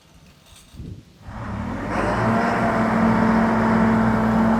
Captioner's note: engine revving